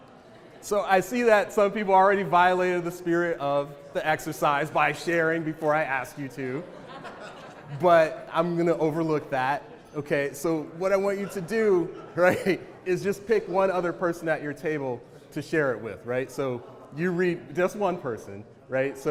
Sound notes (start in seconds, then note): 7.1 audience member laughs